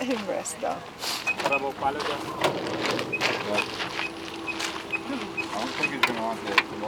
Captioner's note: crew chattering; loud clatters